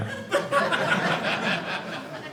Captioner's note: audience laughing